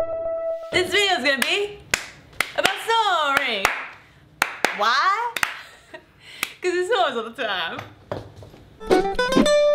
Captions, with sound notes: This video's going to be about snoring. [Clapping]. Why? Cause he snores all the time.